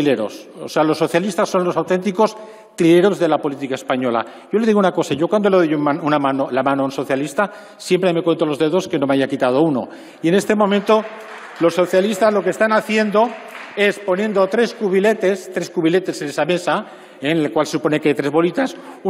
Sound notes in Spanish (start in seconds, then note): 10.3 Aplausos